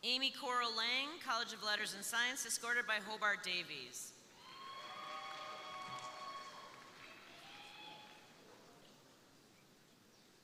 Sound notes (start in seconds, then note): 4.3 crowd cheering; 4.4 crowd applauding